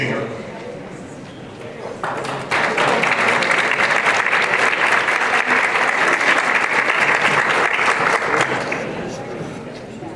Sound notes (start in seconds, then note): 2.0 applause